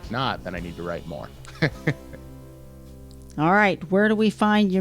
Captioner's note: laughs